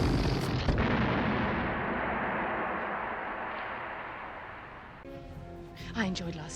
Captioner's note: whoosh; boom